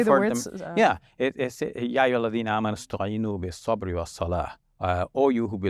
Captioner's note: speaks foreign language